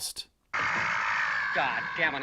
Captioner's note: pterodactyl cawing